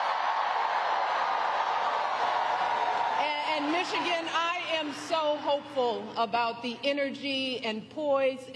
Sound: applause

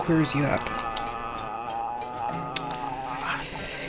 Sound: still going uhhhhhh; breaths through teeth; still going uhhhhhh

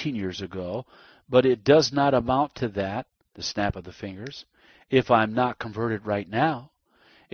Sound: the snap of the fingers

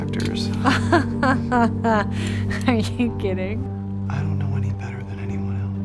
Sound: laughing

